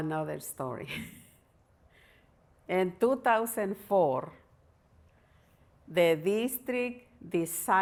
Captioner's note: laughter